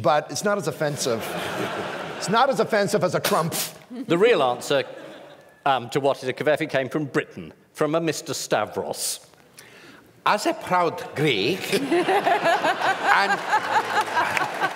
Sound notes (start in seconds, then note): 11.7 laughter; 13.1 applause